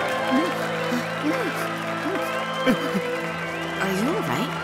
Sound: whipering

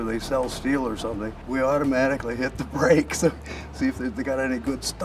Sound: laughs

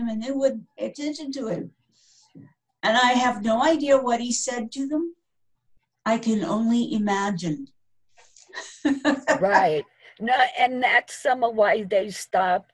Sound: chuckling

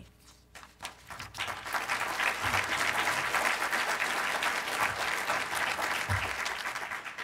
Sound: applause from audience

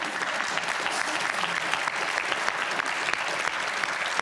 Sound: audience applauds

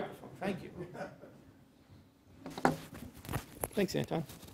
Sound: laugh

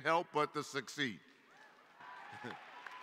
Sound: applause

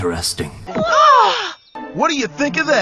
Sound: shocked-gasp!

